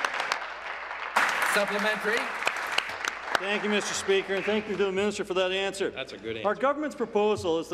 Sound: applause

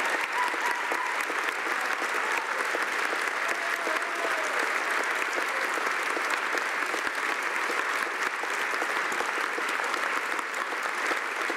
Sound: cheering and Applause

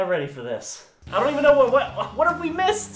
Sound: stammering

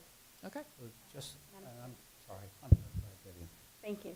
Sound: murmuring

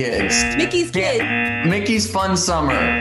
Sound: buzzer rings

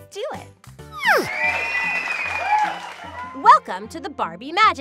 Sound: audience cheers

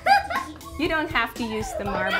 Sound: child laughing

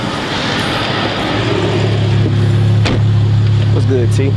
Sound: car revving

